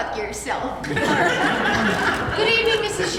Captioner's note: laughter